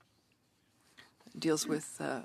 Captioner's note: speaking in French